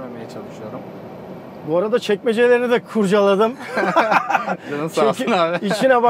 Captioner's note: laughings